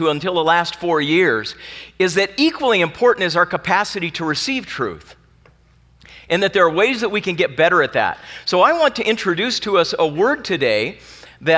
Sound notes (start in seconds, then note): none